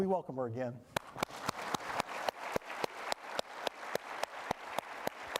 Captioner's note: applause